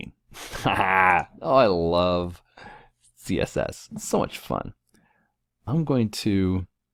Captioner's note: laugh